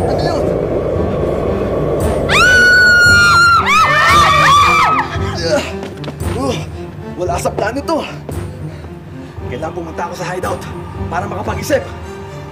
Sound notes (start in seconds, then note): 2.2 screams